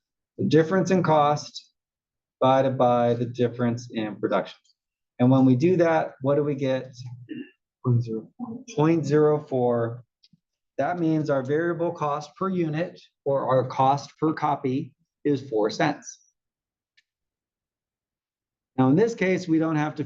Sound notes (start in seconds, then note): 7.2 cough